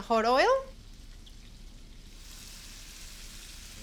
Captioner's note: sizzling